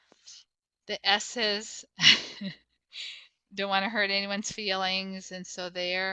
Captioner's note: chuckles